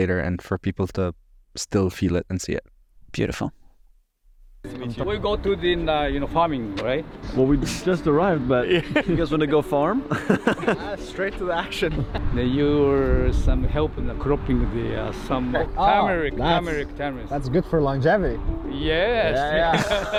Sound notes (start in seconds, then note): 10.0 all laughing